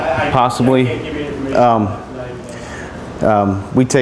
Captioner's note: voiceover